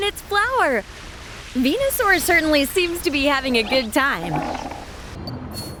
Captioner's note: cheerful calls